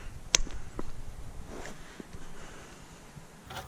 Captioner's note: taps drill bit against the ground to dislodge bolt